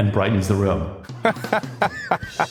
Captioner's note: laugh